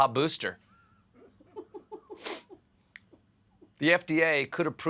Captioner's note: laughter